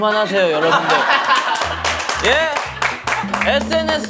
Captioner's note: laughing